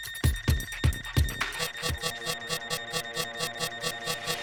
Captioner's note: alarm beeping